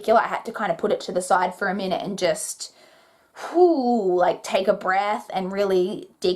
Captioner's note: exhales